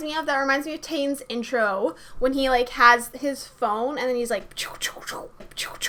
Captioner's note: sound effects